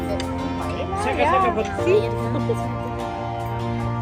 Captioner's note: speaking German